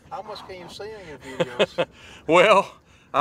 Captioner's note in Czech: Smích